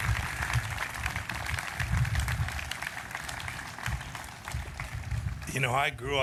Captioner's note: applause